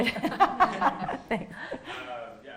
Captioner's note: laughing